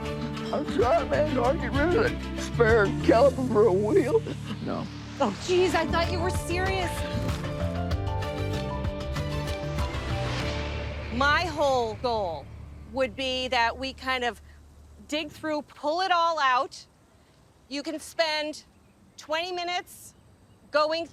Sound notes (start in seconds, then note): 5.2 sobs